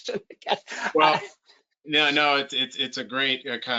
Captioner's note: chuckles